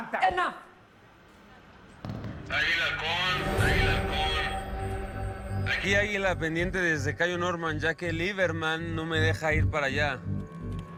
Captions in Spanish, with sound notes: - ¡SUFICIENTE! [Voz en la TV] ÁGUILA A HALCÓN. ÁGUILA A HALCÓN. AQUÍ, ÁGUILA, PENDIENTE DESDE CAYO NORMAN, YA QUE LIBERMANN NO ME DEJA IR PARA ALLÁ.